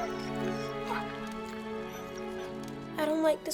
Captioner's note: somber music; Buck whining